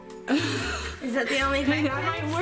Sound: mother laughs

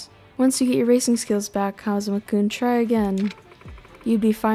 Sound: none

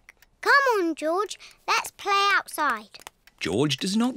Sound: none

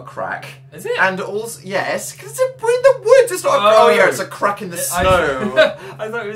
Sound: mocking

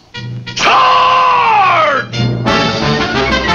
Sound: yells

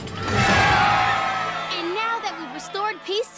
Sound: all cheer

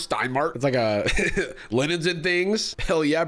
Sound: laughs

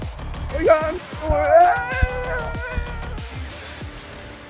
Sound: excited chatter

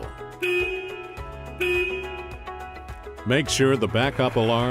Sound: horn honking

